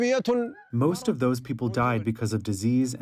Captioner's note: through translator